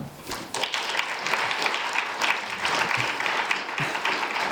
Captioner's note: audience applauding